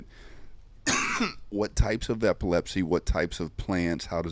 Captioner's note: coughs